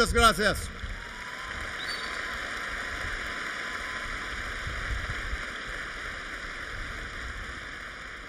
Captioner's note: applause